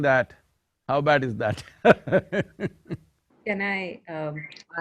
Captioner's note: laughs